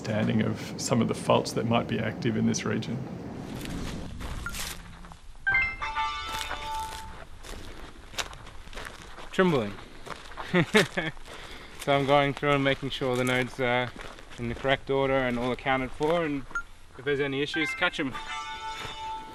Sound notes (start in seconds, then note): 5.3 electronic noise; 10.4 laughs